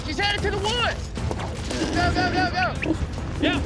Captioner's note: hog snorting